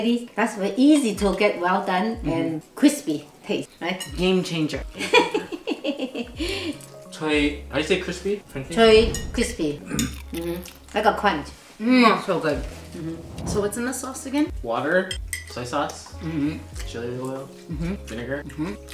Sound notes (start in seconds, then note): 5.5 laughs